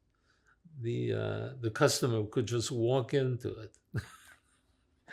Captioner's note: laughing